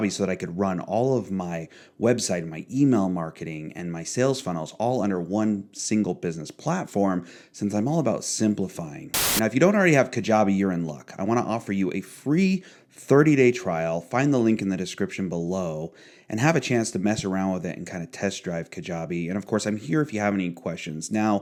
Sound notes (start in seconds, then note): 9.1 static buzzes